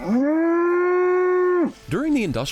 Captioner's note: cow lows